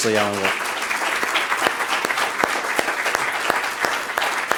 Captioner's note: applause